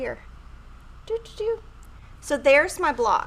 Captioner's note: hums